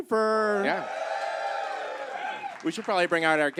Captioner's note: audience cheers